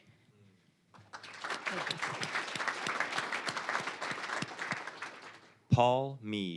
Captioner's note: applause